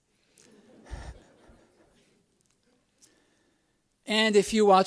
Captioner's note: laughs